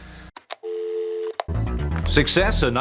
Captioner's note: dial tone; click